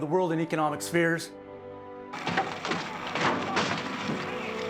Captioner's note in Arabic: صراخ المدنيين